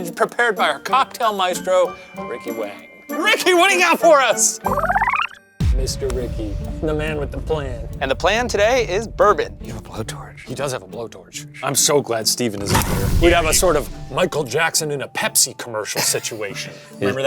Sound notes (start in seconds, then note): none